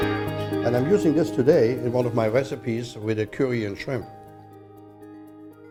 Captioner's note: none